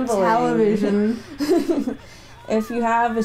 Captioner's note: laughter